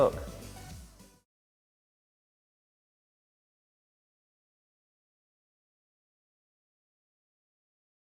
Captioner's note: silence